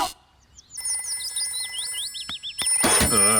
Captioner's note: phone rings